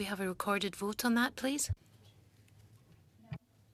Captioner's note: speaking French